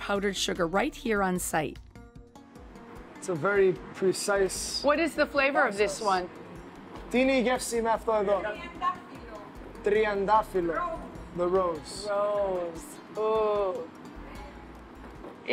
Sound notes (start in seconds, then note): 6.8 speaking Greek